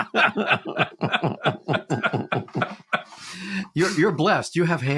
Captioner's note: laugh